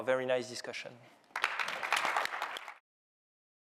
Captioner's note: applause